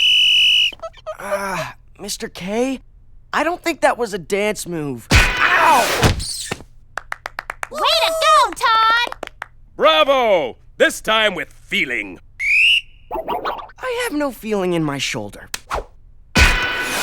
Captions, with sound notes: UGH... MISTER K., I DON'T THINK THAT WAS A DANCE MOVE. OW! (APPLAUDS) WAY TO GO, TODD! BRAVO! THIS TIME WITH FEELING! (BLOWS WHISTLE) I HAVE NO FEELING IN MY SHOULDER. OW!